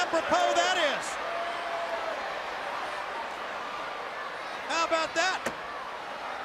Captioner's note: crowd cheering